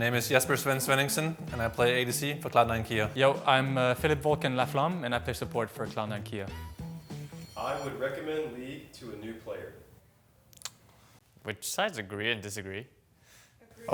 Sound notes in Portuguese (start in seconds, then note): none